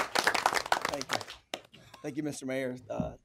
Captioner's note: applause